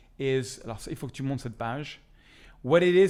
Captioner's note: speaks French